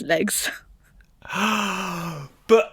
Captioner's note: gasps